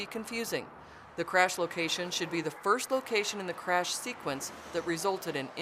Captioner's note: sounds of vehicles driving on road